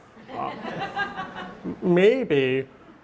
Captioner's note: audience laughing